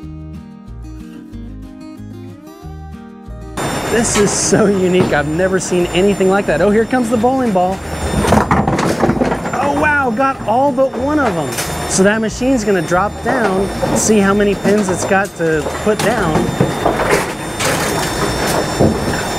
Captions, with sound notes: (playful music) This is so unique. I've never seen anything like that. Oh, here comes the balling ball. (pins clattering) Oh, wow. Got all but one of them. So that machine's gonna drop down. See how many pins it's got to put down. (pins clattering)